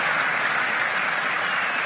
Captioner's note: applause